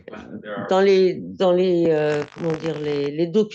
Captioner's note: speaking french